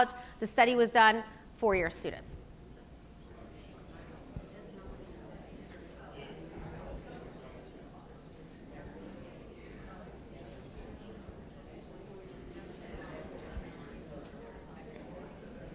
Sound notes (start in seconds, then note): 2.9 audience murmurs